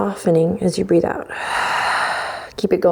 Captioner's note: exhales